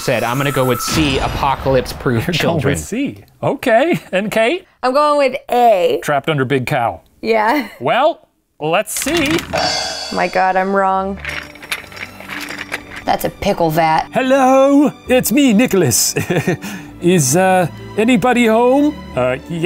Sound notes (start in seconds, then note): 0.1 music builds and ends dramatically; 9.0 rattling; 9.5 cymbal crash; 11.4 rattling; 11.4 soft string music